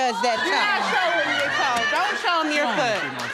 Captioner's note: audience laughing